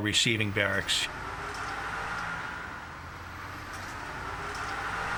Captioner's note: bus engine roaring